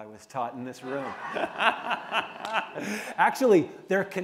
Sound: laughter

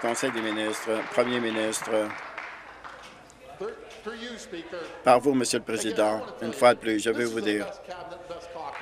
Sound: applause

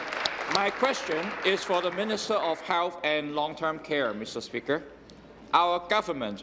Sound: applause

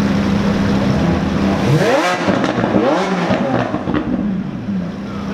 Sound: revving

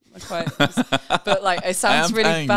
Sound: laughing

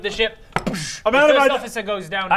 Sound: boosch

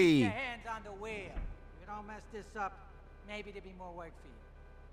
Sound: car horns honking nearby

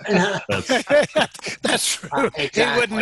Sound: all laughing

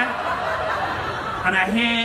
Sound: audience laughing

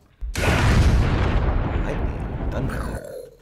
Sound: lighting cracking

